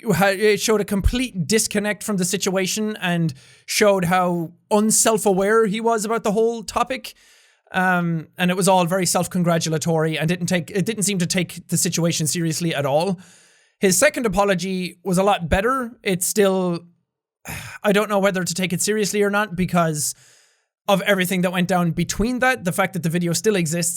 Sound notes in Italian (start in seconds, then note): 17.4 sospira